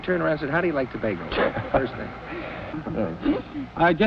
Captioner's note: laughs